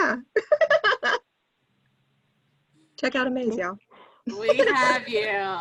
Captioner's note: laughs